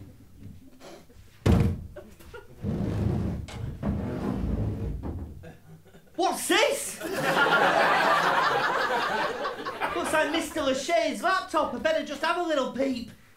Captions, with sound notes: (THUD) (SCRAPING) What's this?! (LAUGHTER) Looks like Mr L'Shay's laptop, I'd better just have a little peep!